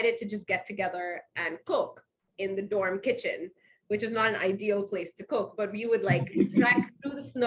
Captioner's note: laughs